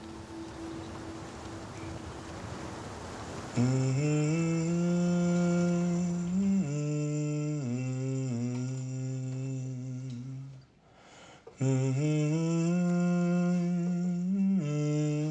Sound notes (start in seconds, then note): 3.5 humming; 11.5 humming continua